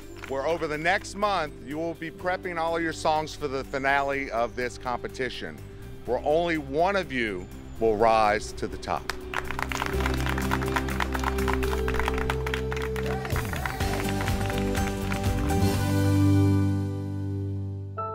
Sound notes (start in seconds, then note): 9.0 group applauding; 14.0 upbeat music